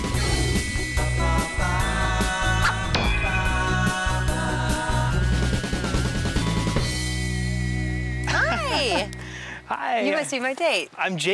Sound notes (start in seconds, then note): 0.1 upbeat music; 8.2 laugh